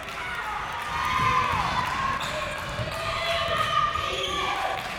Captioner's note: crowd members shouting